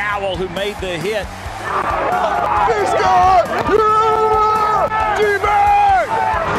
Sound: players whooping and shouting

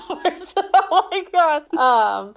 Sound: laughing; laughs

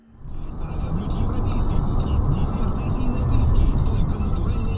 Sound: background car noise

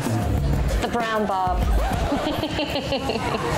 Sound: laughs

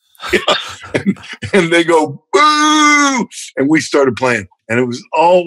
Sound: laughter

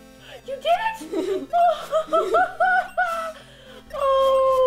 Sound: surprised laughter

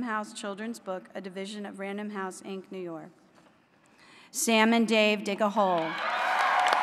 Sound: applause

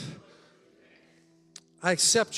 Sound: congregation chattering

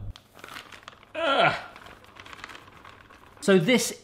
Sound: bag rattling

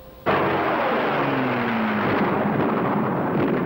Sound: engine roaring

